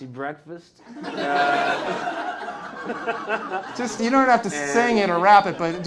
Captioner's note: laughter